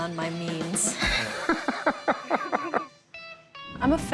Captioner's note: laughing